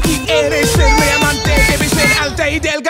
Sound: baby Talk

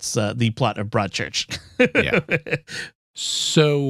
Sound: laughter

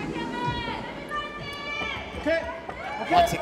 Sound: cheering from the audience： fighting!

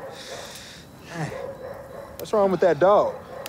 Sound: distant dog barking

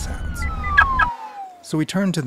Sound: sirens whirring

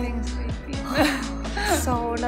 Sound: laughter

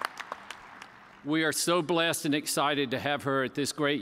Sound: cheers and applause

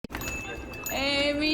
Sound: bells over door jingle

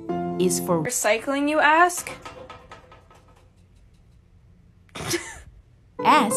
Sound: laughing

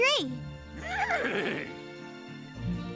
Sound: neighing

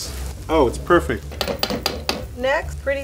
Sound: wok clanging

